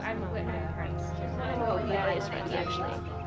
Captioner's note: students murmur